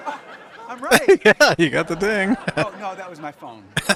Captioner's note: laughing